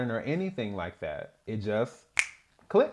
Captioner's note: snap